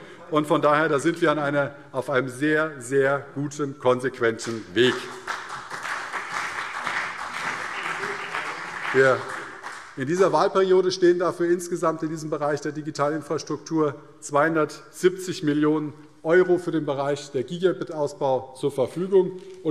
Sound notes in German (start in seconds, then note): 4.4 Beifall CDU und BÜNDNIS 90/DIE GRÜNEN